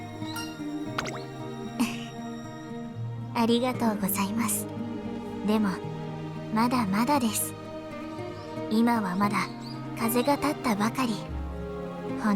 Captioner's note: giggle